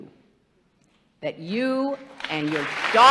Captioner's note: applause